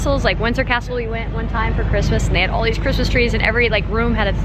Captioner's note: none